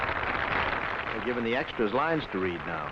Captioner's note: applause